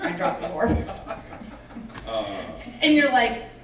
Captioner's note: laughing